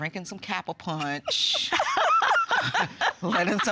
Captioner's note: laughing